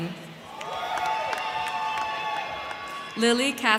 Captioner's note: crowd cheering; crowd clapping